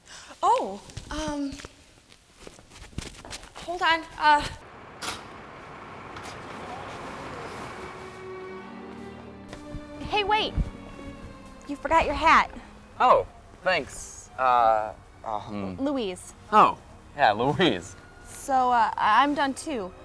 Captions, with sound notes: - Oh! Um ... Hold on. (door clicks) (strings music) Hey, wait. You forgot your hat. - Oh, thanks, uh, um ... - Louise. - Oh, yeah, Louise. - So I'm done too.